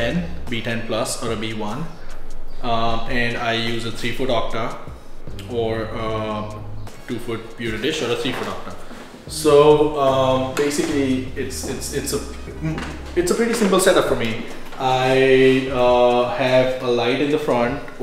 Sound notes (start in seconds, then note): 11.7 stammers